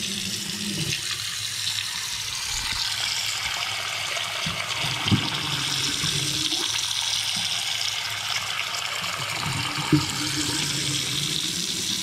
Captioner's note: running water sound